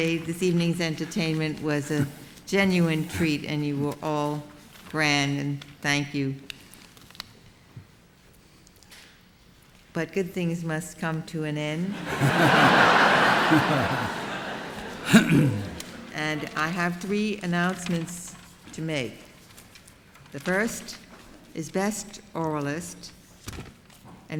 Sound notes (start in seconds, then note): 11.9 laughter